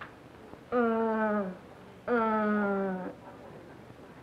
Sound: groans

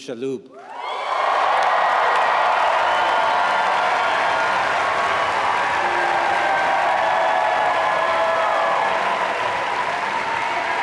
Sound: applause

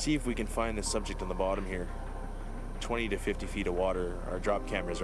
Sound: voiceover

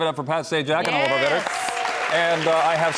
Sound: audience applauds

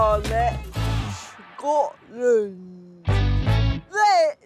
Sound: attempts Scottish accent

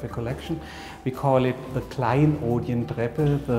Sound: speaks German

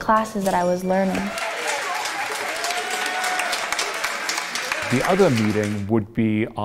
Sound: applause

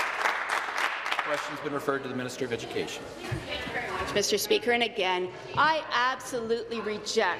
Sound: applause

